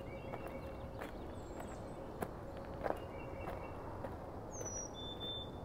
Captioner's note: footsteps crunching